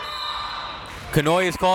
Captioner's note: whistle tweeting